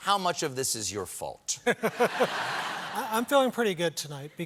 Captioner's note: laughter